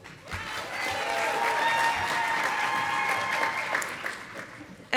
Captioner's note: audience applauding